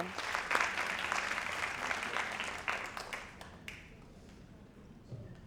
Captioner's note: audience applauding